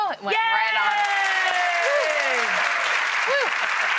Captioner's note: audience claps